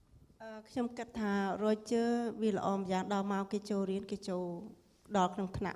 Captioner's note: speaking foreign language